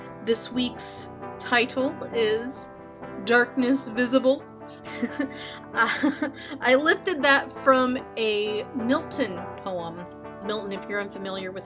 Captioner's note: laughs